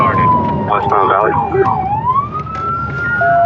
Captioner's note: sirirens